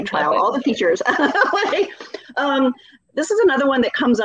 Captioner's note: laughing